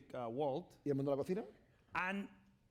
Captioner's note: speaking spanish